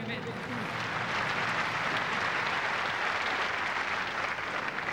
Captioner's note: applause